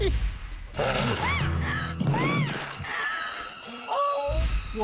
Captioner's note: screams